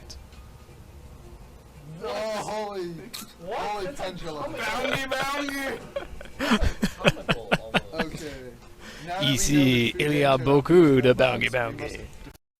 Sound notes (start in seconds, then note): 4.6 snickers; 6.6 laughs